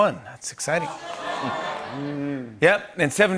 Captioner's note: audience groans